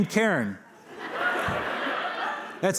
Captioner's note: laughter